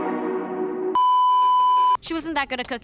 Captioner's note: beeeeeeeeeeeep